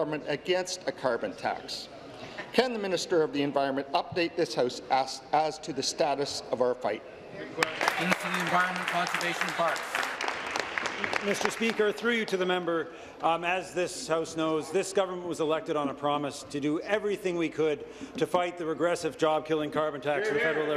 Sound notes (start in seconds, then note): 10.2 applause